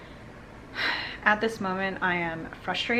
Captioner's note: breathing deeply